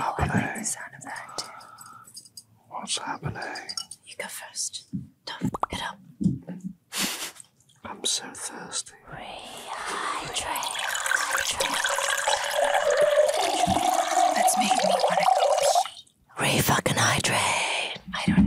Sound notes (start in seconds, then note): 7.3 Jess laughing; 11.6 water pouring